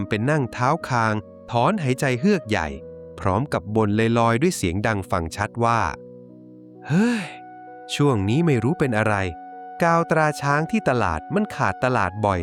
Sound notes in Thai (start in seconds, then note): 6.8 เสียงถอนหายใจ